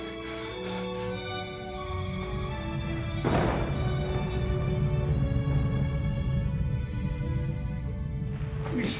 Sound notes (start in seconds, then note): 0.0 Charles whispering; 0.0 serious orchestral music; 3.1 thunder crackling